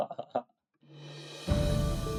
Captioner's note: laughing